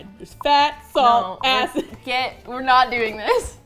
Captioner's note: laughing